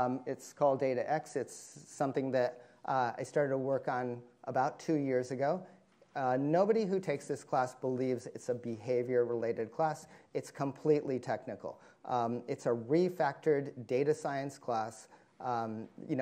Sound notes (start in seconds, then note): none